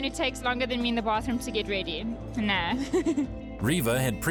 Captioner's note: laughs